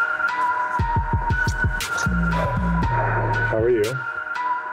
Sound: kissing

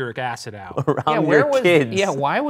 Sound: laughs

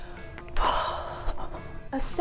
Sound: exhales

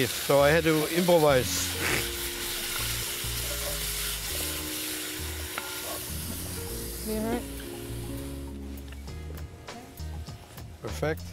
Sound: sizzling

